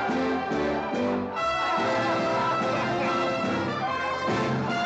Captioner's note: triumphant music; crowd cheering; triumphant music